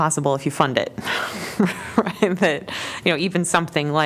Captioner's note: laughter